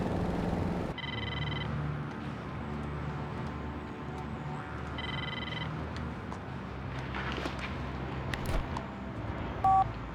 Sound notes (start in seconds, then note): 0.9 phone ringing